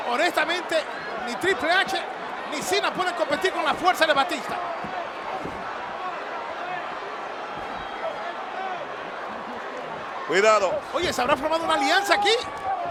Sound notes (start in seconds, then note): 5.5 applause